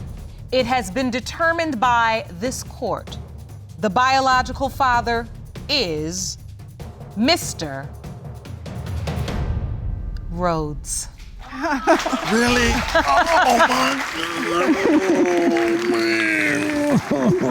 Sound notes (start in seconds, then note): 11.4 laughing